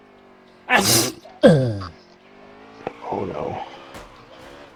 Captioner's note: sneeze